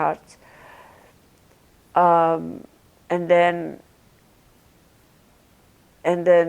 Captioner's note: pauses 6 seconds